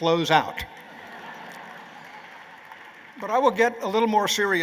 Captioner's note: laughter